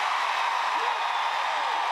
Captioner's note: applause